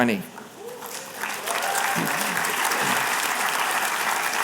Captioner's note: applause